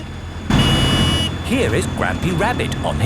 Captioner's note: honking